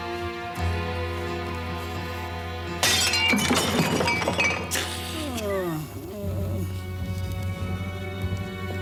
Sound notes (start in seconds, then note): 6.2 groaning